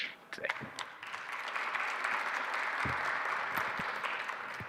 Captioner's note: audience applauding